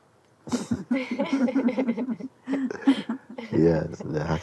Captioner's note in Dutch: gelach